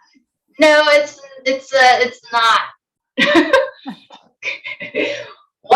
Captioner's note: giggles